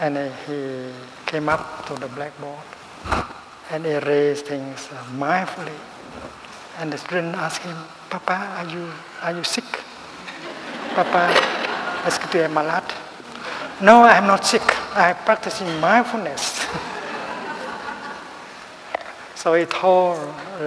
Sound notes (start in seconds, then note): 16.6 laughter